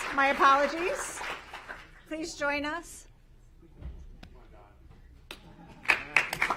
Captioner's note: applause